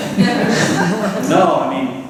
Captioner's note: laughter